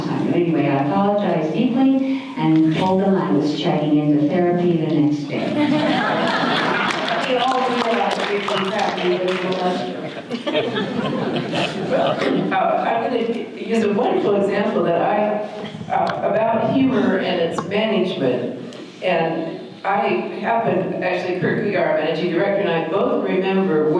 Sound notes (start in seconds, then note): 5.5 audience laughter; 8.1 audience applause